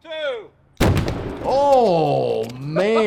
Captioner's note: explosion banging